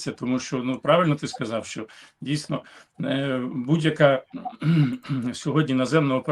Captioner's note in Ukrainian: прочищення горла